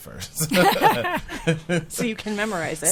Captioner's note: group laughing